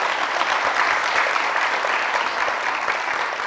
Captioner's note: applause